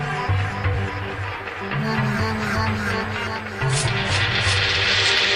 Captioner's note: applause